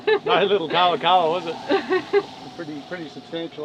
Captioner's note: laughs